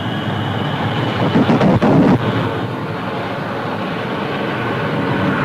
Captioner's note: plane engines roaring; fire whooshing